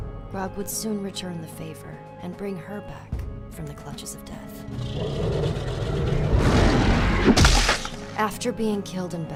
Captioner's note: roar, crunch